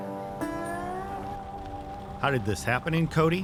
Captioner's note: gentle music; car engine revving steadily